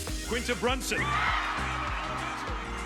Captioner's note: crowd cheering